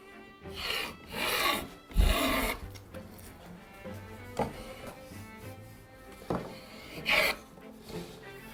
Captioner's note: planing sound